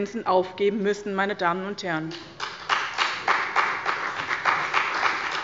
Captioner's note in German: Beifall bei dem BÜNDNIS 90/DIE GRÜNEN sowie bei Abgeordneten der CDU und SPD